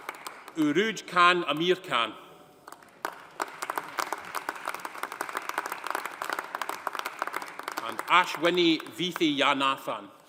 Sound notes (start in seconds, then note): 2.6 audience applauding